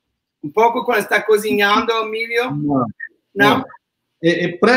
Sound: speaks portuguese

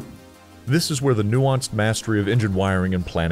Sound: voiceover

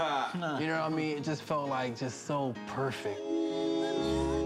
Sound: chuckling

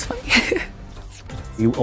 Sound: laughs

